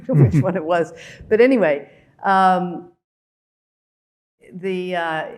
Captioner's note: chuckling